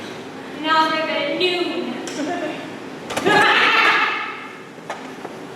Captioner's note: door opens offscreen